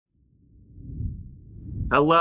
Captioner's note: graphic whooshing